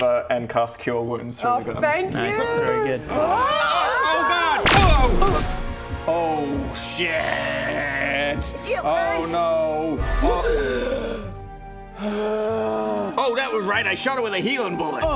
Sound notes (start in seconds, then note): 10.0 gasping for life